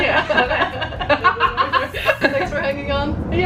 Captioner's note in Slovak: smiech